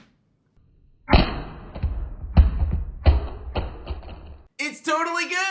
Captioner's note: banging sound